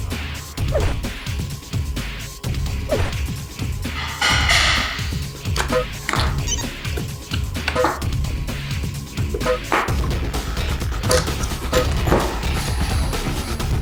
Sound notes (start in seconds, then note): 0.2 dramatic music continues; 5.4 electronic beeps resound